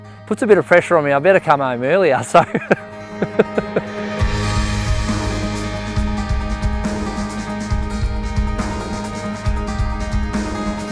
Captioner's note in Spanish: risas